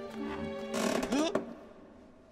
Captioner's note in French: grincement